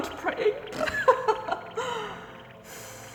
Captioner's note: laughs